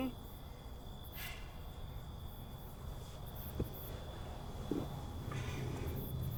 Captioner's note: crickets chirp; faint traffic noise